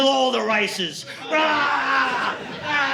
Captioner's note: screaming